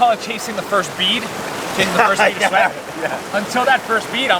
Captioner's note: laughs